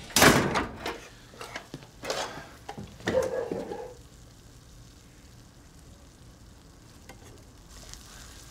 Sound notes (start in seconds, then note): 3.0 barking